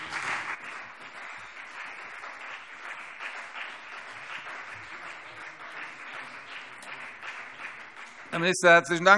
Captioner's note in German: Beifall CDU und BÜNDNIS 90/DIE GRÜNEN